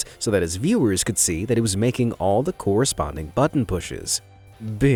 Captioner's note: none